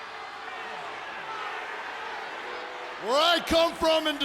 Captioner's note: audience cheering